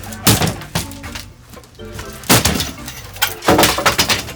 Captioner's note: wood clanking